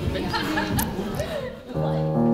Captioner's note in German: Stimmengewirr